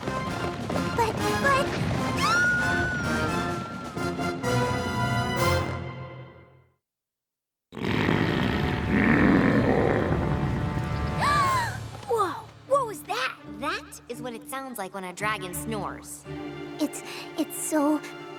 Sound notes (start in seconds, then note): 1.9 squeals; 7.7 dragon snoring loudly; 11.1 gasps